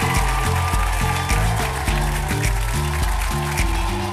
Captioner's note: upbeat music; audience applauds